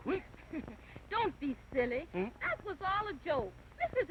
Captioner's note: laughing